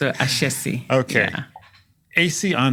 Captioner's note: laugh